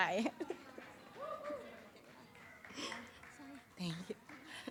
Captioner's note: audience cheers